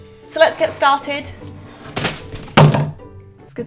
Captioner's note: crash